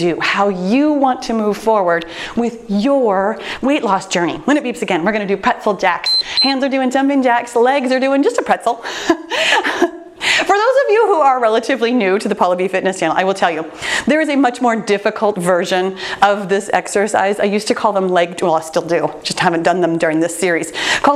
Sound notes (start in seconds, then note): 6.0 timer beeps; 8.9 laughs